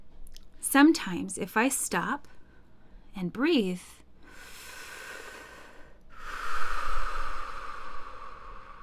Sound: big breath in and out

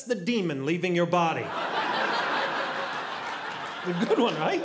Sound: audience laughing

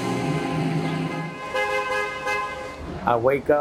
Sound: bus honking

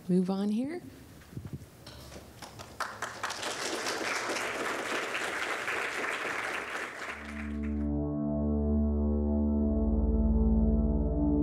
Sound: applause

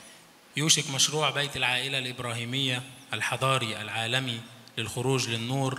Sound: speaks in foreign language

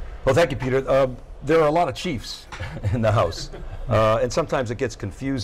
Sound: laughs

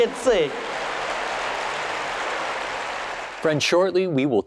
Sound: boisterous applause

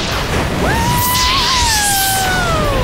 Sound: whooping

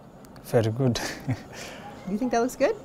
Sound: laughs

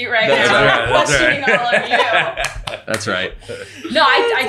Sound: everyone laughing

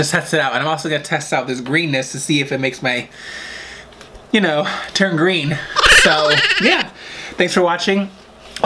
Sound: laughingin background

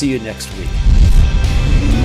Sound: car revving

